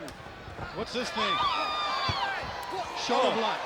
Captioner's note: crowd screams